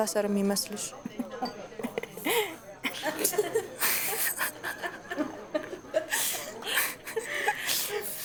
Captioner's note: laughter